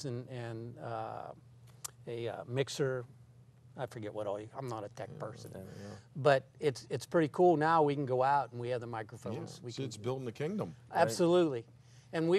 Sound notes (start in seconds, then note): 9.8 voiceover